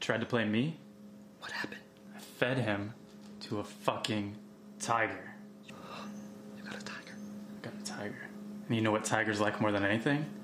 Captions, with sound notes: that tried to play me? - (whispers) What happened? - I fed him to a fucking tiger. - (gasps) You got a tiger? - I got a tiger. And you know what tigers like more than anything?